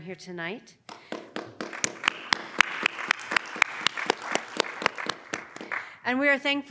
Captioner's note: audience applauding